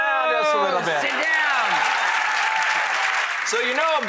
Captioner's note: applause